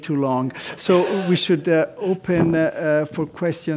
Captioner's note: laugh